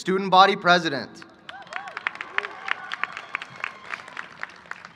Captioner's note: applause